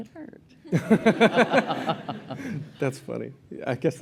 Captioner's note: laughter